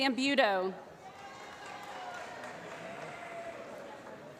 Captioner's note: applause